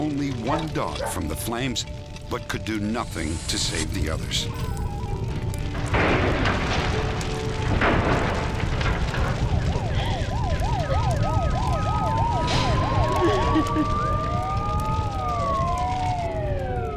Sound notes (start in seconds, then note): 9.8 sirens blaring; 13.1 crying